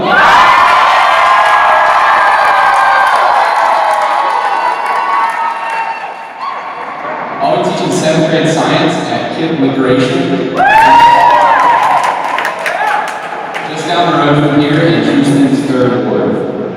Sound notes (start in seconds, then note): 0.0 cheers; 10.5 cheers